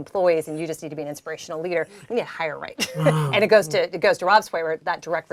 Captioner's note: laugh